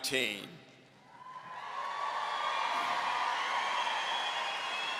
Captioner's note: audience cheering